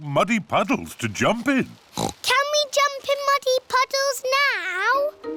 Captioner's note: oinks